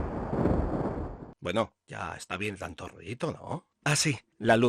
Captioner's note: sound of thunder